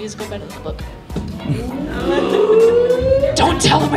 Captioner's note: sounds of gothic shock and scandal